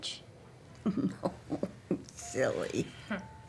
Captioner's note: laughs